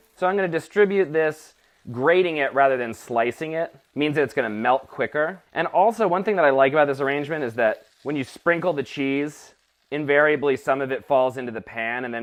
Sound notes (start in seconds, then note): none